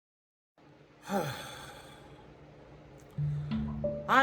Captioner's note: sighs